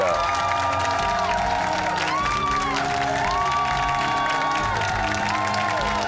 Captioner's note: cheers and applause